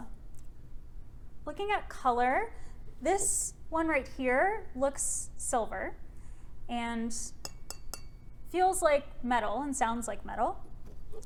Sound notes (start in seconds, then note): 7.4 three metallic taps